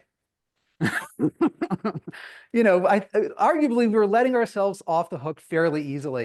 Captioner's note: laughs